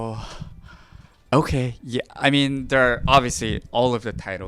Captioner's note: exhaling